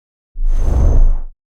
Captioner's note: whooshing